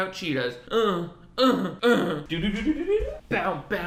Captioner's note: grunting